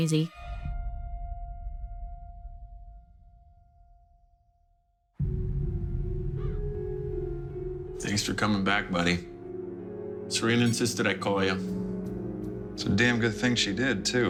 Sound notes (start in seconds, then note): 6.3 crow caws